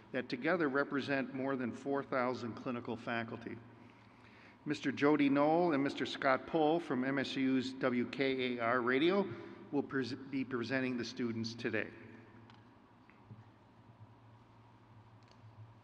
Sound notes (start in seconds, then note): none